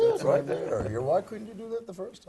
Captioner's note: laugh